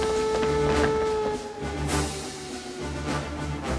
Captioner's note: alarm Continues